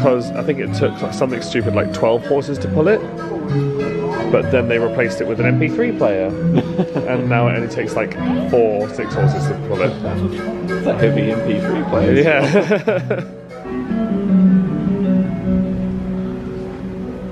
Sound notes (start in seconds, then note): 11.7 laughs; 14.4 calming music